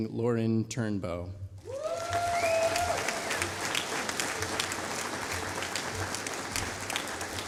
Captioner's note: applause